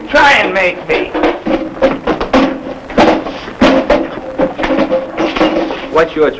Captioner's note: scuffling